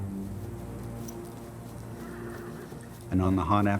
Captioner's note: horse neighing